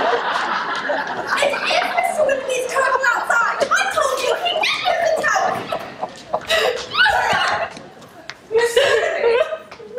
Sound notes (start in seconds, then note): 6.4 Marianne sobs